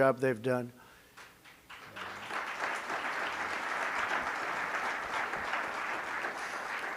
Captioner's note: applause